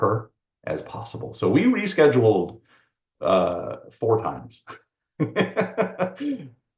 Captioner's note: laughs